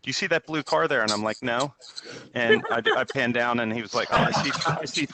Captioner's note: laughter